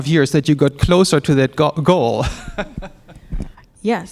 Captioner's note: chuckles